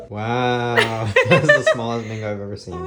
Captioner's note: both laughing